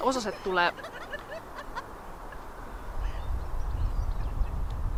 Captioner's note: Various sounds of local finnish fauna